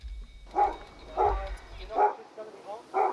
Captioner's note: barking